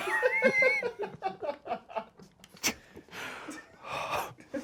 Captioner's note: and crew laugh